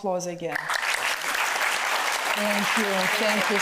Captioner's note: audience applauds